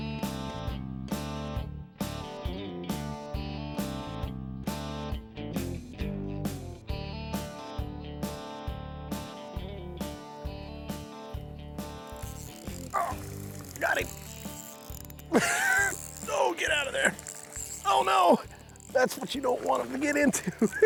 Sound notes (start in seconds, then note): 12.2 reeling clicking; 15.3 laughs